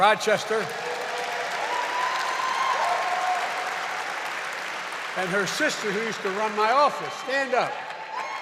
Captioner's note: applause